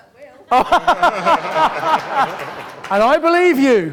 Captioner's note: laughing